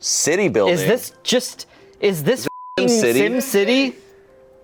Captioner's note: beep